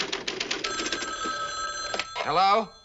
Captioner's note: phone ringing